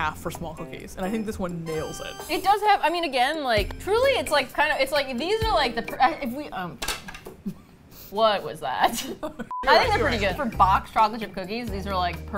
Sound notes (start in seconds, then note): 8.8 both laugh